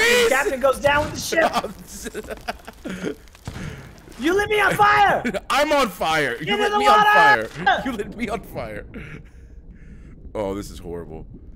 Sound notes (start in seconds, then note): 1.2 laugh